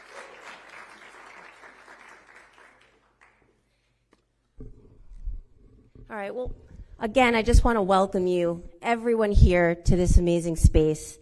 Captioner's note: applause